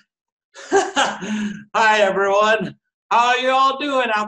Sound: laughs

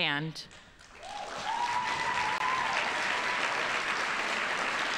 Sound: audience applauding

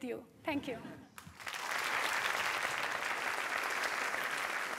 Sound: applause

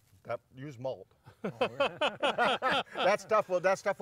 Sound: laughing

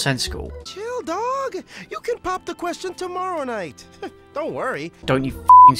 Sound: laughs

